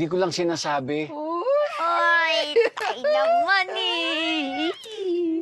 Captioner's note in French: chuckles